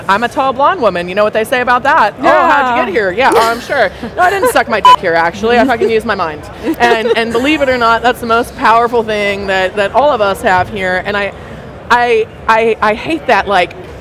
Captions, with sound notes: I'm a tall blonde woman, you know what they say about that? Oh, how'd you get here? Yeah. Oh, I'm sure. No, I didn't suck my (beep) here actually. I used my mind. And believe it or not, that's the most powerful thing that all of us have here. And I hate that like